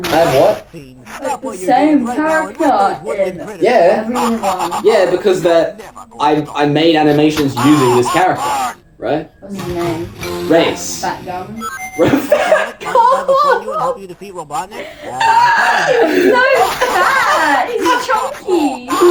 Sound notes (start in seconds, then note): 5.8 evil laugh; 11.9 laughs hysterically; 14.7 wheezes; 17.7 evil laugh